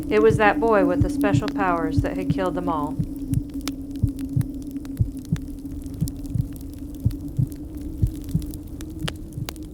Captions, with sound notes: It was that boy with the special powers that had killed them all. (heart beating and fire crackling)